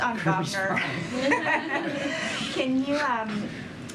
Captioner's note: laughter